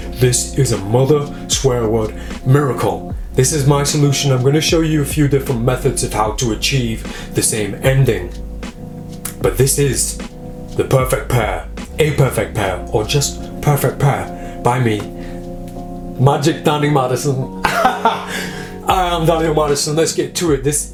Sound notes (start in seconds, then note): 17.6 laughs